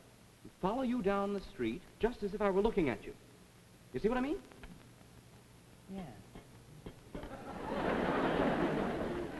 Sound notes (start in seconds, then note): 6.3 tapping; 7.2 audience laughs